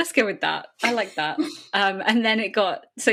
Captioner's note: laughs